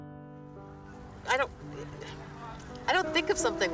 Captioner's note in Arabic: ثرثرة بعيدة